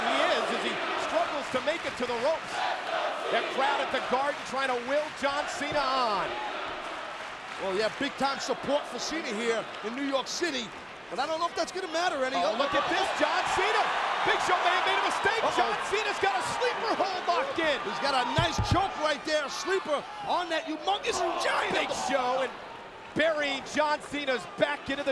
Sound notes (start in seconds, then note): 14.7 crowd cheering